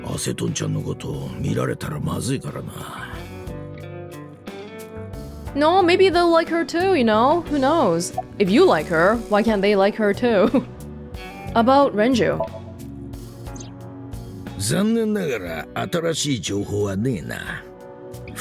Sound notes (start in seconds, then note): 10.3 chuckles